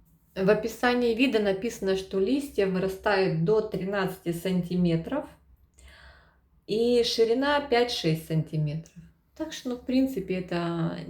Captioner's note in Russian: тяжело вздыхает